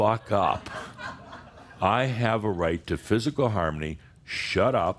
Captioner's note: some laughter